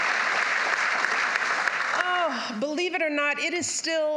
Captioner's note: applause